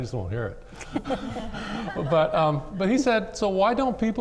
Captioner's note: laughs